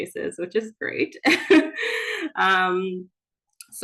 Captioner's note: chuckles